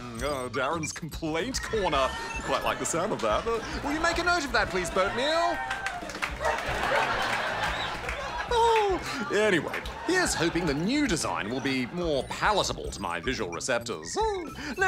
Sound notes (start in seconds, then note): 6.1 barks; 6.1 laughter, whooping; 8.2 laughs; 14.2 chuckles